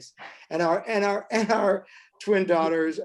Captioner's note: chuckles